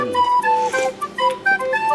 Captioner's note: slurp